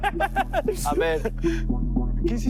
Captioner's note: laughs